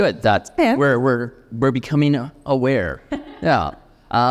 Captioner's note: laughing